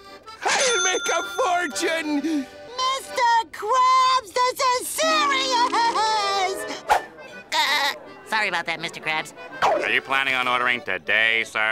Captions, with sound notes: I'll make a fortune! Mr. Krabs, this is serious! [laughing] Sorry about that, Mr. Krabs. Are you planning on ordering today, sir?